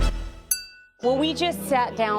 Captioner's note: upbeat music; glasses clink